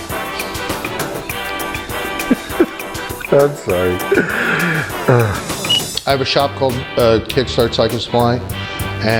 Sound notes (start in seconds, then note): 0.3 laughing